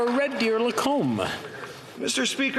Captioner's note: some Applause